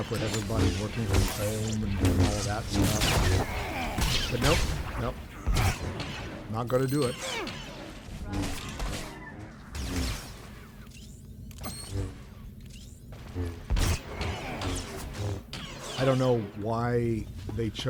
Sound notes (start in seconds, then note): 3.6 gun fires; 8.6 gun fires